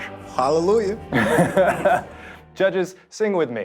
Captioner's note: laughing